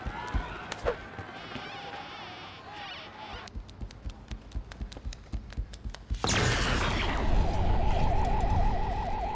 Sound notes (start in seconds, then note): 6.2 electrical buzzing; 6.2 explosion